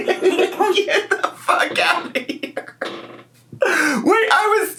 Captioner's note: laughs